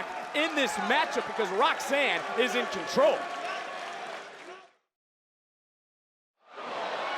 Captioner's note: crowd cheering